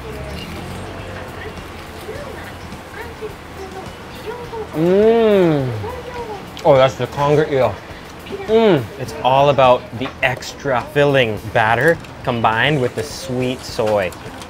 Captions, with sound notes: (tempura crunching) Mm, oh that's the Conger Eel. Mm it's all about the extra filling batter combined with the sweet soy.